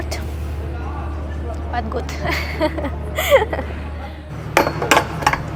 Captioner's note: laughter